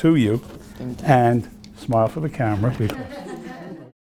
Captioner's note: laughing